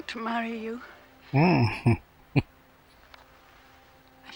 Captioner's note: chuckling